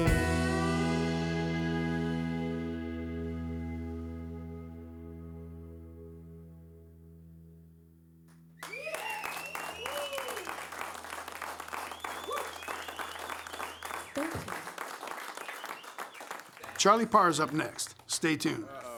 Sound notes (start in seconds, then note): 8.6 applause